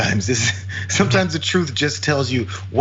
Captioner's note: laugh